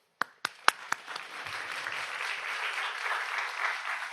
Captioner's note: audience applauds